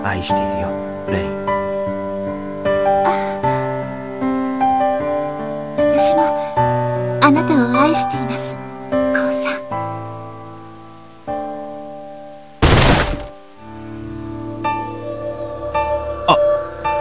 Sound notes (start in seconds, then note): 4.8 rain